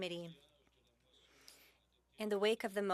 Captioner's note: speaking French